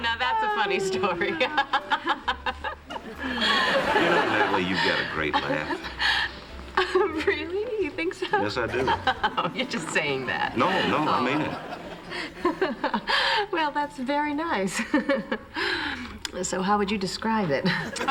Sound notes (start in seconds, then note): 0.0 laughter; 3.5 laughs; 8.2 giggles; 13.0 laughs